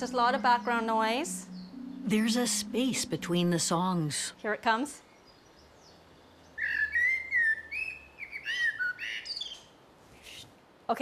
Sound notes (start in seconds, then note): 6.8 bird singing